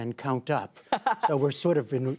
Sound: laughter

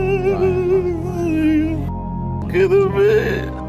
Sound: crying

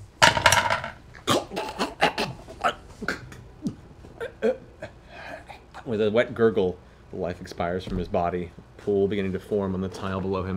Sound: extended choking sounds

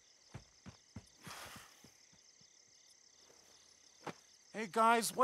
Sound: crickets chirping; Greg sighs

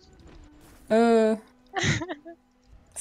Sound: haha

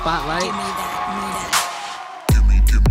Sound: crowd cheering

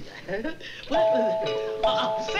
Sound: doorbell rings

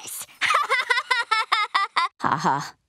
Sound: laughing

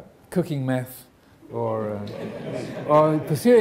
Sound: audience laughing

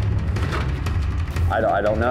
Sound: dispenser clicking

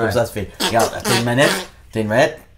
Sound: ass noise

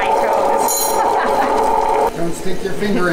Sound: laughs

